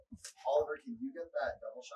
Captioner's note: background chatter